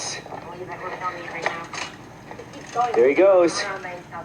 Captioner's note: background voices talking